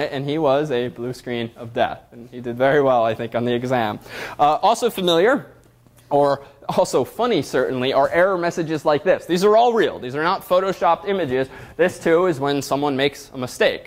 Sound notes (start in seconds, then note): none